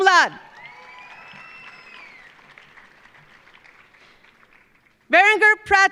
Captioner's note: audience cheering; audience applauding